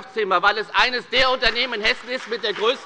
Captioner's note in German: Beifall bei der FDP und bei Abgeordneten der SPD